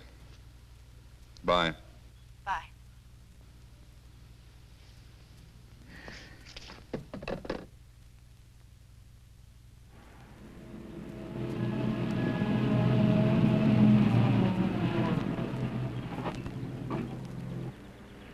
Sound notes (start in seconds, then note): 9.9 car engine rumbling